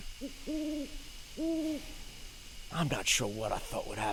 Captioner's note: owl hooting